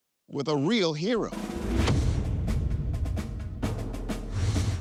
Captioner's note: graphic whooshes